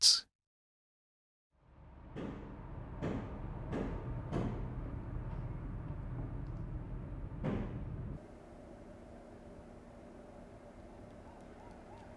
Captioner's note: distant hammering